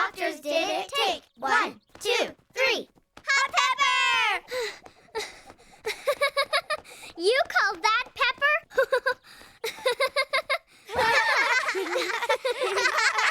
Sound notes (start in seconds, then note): 3.4 panting and laughing; 10.5 laughing